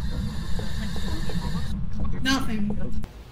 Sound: static continues with no irregularities

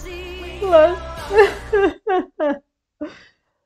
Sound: laughing

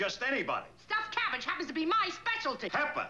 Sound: yells

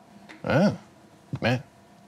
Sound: grunting

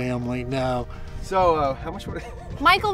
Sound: laughs

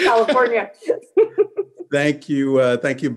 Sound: chuckles

